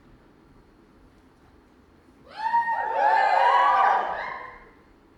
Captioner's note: audience cheer